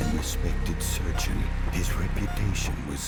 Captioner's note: machines beeping